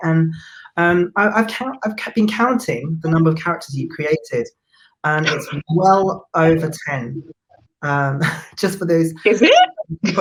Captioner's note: laughs